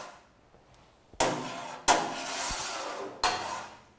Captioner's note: sound of metal on metal